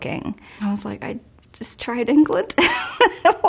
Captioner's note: laughs